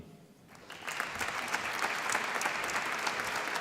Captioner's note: applause